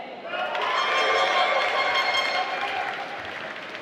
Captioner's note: applause